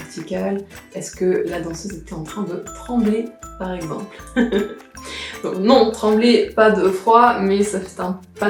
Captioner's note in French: rire